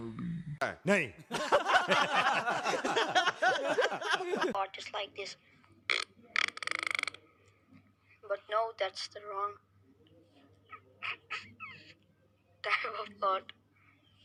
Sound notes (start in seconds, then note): 6.3 fart; 10.7 laughing